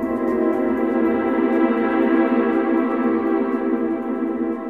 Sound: none

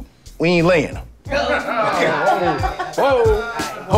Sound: laughter

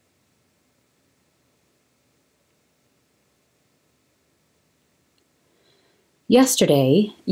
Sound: silence

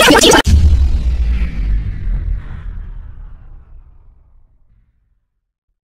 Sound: power down

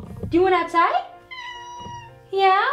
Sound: cat meows

